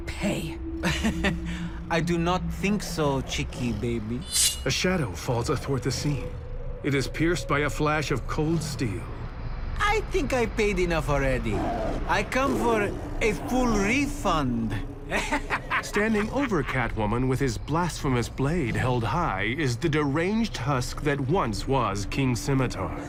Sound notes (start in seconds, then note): 0.8 laughs; 4.3 blade slices; 14.7 laughs